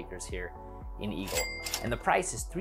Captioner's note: cash register dings